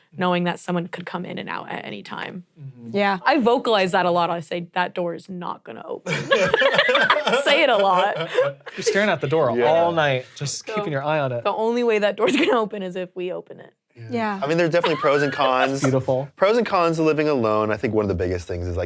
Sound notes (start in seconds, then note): 6.0 all laughing